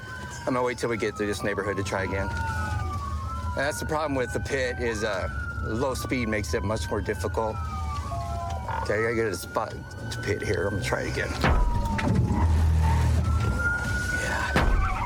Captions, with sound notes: I'm going to wait till we get through this neighborhood to try again. That's the problem with the PIT is low speed makes it much more difficult. OK, I got to get a spot to PIT here. I'm going to try it again. [thuds] Yeah.